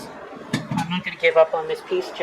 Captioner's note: thud